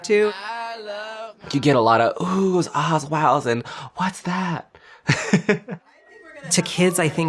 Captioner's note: laughs